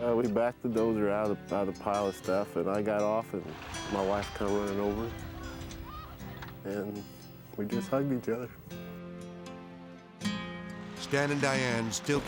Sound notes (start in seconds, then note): 5.4 sobbing; 8.6 gentle guitar music